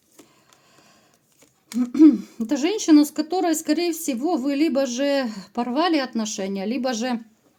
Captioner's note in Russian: откашливается